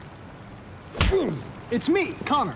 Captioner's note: slap